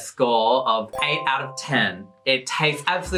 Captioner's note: dings